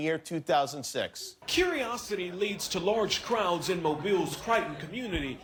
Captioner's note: laughter